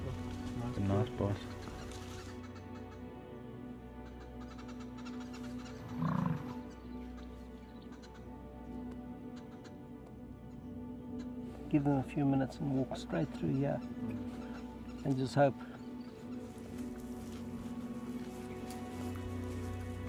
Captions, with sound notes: - That's a nice boss. (animals chirping) (animal grunting) Give him a few minutes, and we'll spread through here. And just hope. (grass crunching)